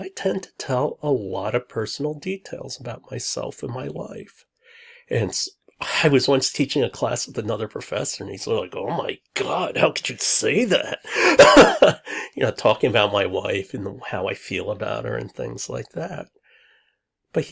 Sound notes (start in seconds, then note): 11.1 laughs